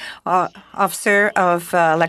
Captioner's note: speaking in French